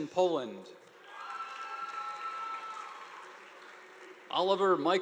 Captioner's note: audience applauding